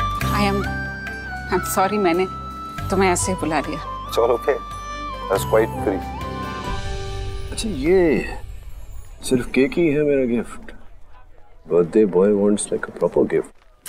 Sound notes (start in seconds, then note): none